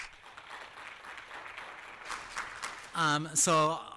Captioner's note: applause